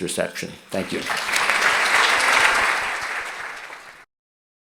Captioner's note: audience applauds